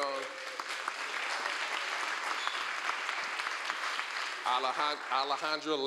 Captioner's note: applause